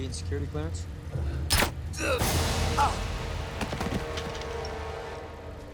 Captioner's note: tranquilizer gun firing